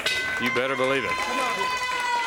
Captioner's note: crowd cheering